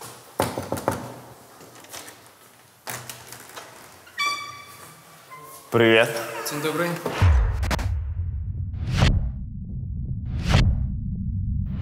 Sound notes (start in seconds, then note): 0.4 knocks on the door; 2.5 door screeches and squeaks